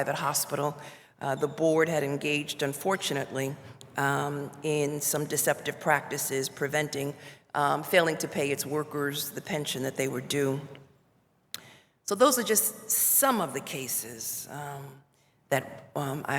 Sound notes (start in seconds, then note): none